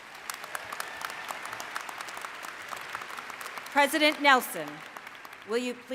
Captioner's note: cheering